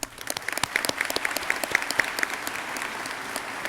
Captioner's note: crowd cheering